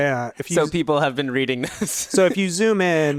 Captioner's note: laughs